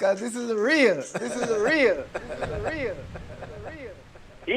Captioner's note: water sounds